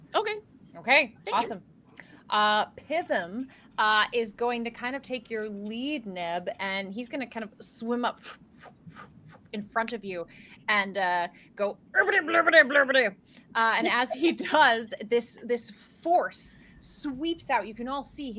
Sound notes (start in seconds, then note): 8.6 panting; 11.6 speaks gibberish